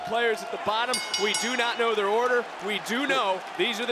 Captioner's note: bell rings